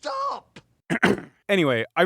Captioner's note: clears throat